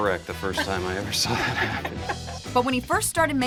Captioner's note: laughter